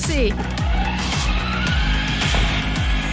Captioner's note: wheels spinning; wheels accelerating